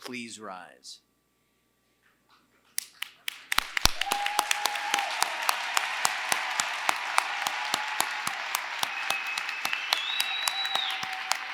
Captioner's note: applause